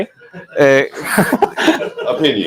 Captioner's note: audience laughs